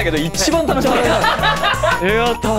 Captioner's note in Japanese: 笑い